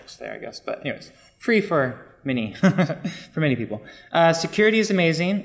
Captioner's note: laughing